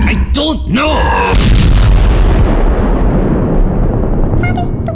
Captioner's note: bonechill explodes